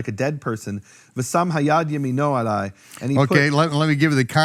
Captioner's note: speaking in foreign language